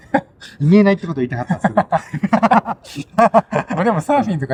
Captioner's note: laughs